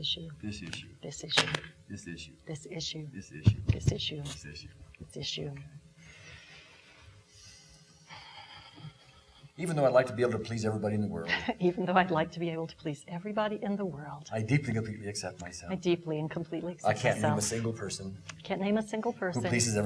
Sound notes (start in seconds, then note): 8.0 exhaling